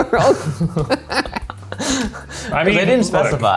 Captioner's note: laughing